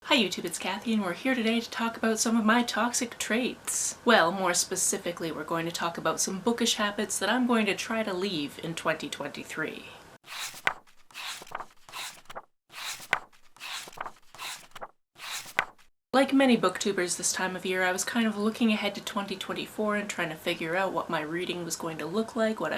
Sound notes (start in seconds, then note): 12.7 pages turning